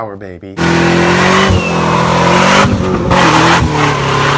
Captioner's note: engine revs